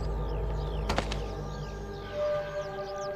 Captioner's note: thud of the chick hitting the cliff